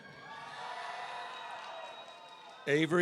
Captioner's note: audience cheering